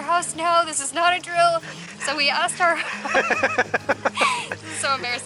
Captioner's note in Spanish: Risas